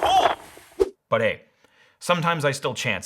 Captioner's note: whooshing